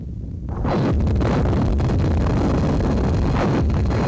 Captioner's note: explosion rumbling